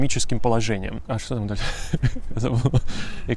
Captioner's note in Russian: смеется